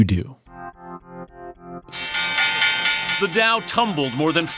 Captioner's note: soundbite of archived recording